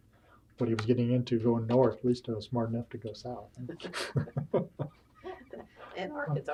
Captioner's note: laughter